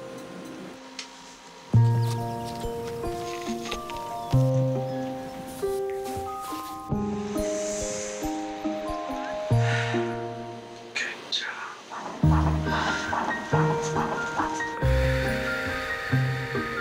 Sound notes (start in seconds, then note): 7.5 inhaling; 9.5 exhaling; 12.2 heartbeat thumping; 14.8 breathing